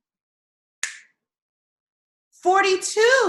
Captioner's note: snaps fingers